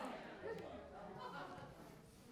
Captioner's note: audience murmuring